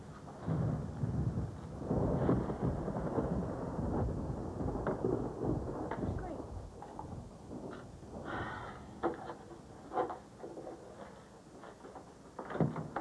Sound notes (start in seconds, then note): 5.9 thunder